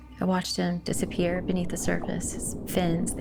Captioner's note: bubbles gurgling